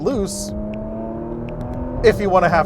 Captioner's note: engine revving